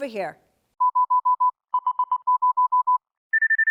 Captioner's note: beep, beep, beep, beep